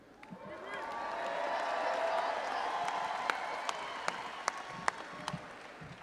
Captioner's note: all applauding and audience cheering